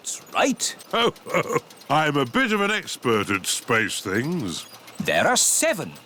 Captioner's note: chuckles